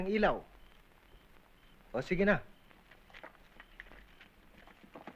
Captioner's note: geckos chirping